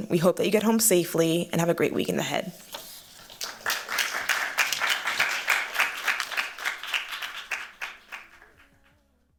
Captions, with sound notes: We hope that you get home safely and have a great weekend ahead. [APPLAUSE]